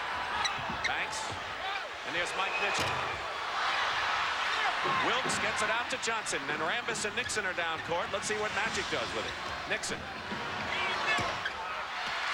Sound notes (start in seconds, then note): 3.8 crowd cheers